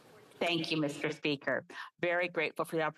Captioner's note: speaking French